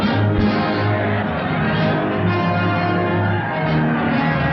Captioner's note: cheering